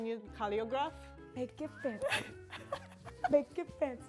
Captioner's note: laughs